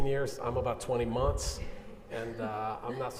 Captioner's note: audience chuckling